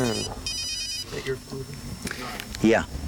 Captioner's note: phone rings